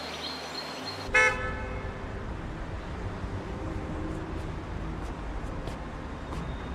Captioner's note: traffic hums; horn honks